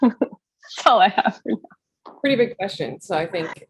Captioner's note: laughs